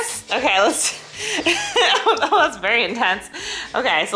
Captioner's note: laughs